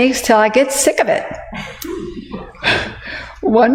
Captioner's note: laugh